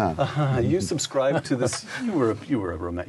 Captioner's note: laughs